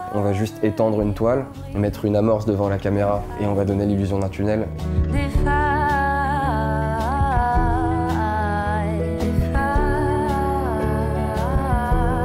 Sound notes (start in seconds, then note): 0.8 speaking in french